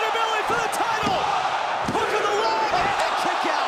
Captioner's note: crowd cheering